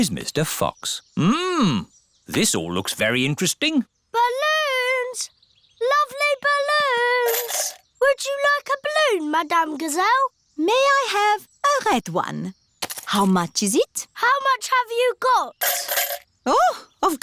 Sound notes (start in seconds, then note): none